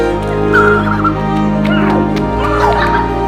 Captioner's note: screaming